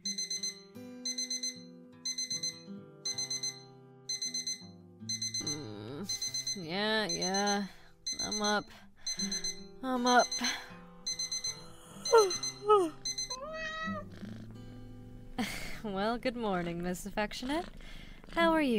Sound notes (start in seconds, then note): 0.1 alarm clock ringing; 9.6 yawns; 10.6 cat meows and purrs